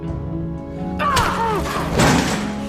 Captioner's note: Aunt Lydia slaps June